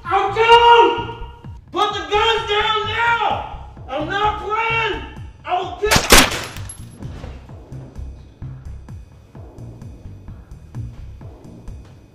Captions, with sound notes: I'll kill him! Put the guns down now. I'm not playin'. I will kill-- (guns fires) (dramatic music)